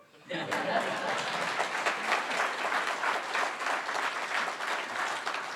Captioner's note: audience laughs and applauds